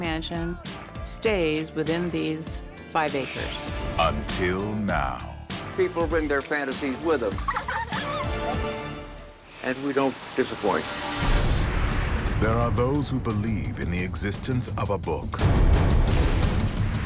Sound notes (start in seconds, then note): 7.2 laughter; 11.8 theme music